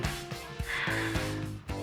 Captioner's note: sighs